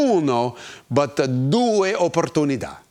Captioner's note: speaking in foreign language